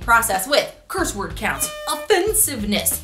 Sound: air horn blowing

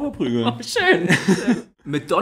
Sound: laughs

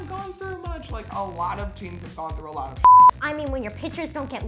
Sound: beep

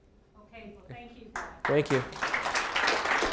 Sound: applause

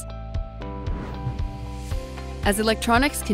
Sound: bright gentle music; frame whooshes

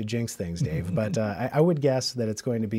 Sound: laughs

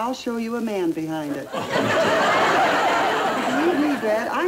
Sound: crown laughing

